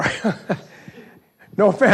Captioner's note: laughs